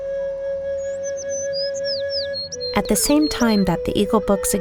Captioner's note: natural sound, birds chirp